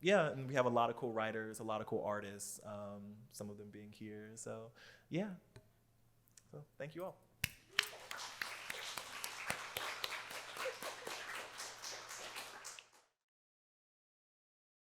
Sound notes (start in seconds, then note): 7.6 applause